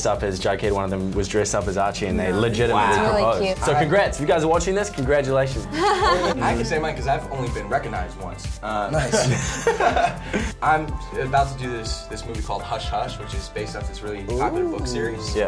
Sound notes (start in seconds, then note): 5.7 laughs; 8.9 others laughs